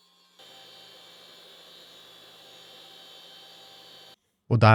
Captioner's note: machinery whirring